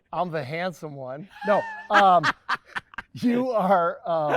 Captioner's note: laughing